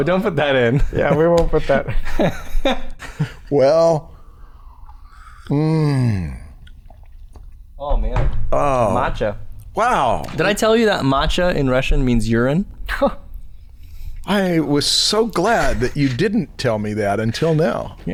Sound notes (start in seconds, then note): 0.7 chuckles